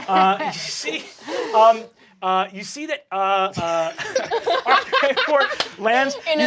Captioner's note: cast laughing